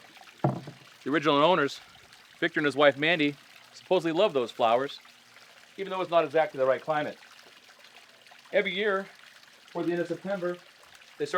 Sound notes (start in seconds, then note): 0.4 bucket clatters